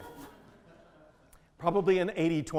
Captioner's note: audience laughing